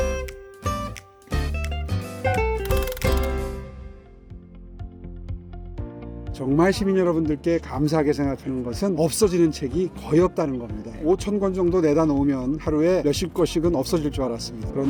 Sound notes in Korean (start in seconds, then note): 2.4 드르륵거리는 효과음; 4.2 밝은 음악